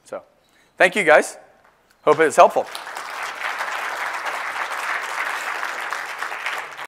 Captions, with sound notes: So thank you, guys. Hope it was helpful. >> [APPLAUSE]